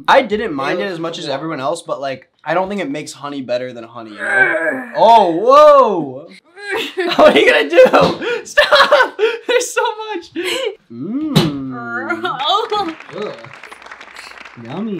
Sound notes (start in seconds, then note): 4.1 Elsie grunts; 13.6 laughs